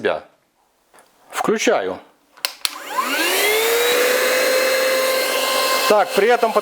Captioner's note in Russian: шум мотора